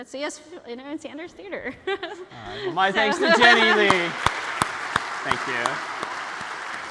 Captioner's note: ปรบมือ